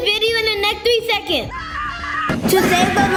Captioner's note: screams